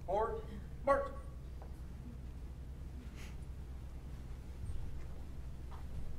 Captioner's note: none